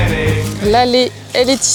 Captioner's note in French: chant